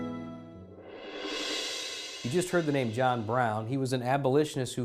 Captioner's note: swoosh